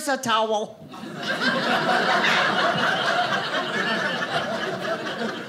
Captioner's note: audience laughing